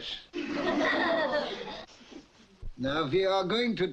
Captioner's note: audience laughs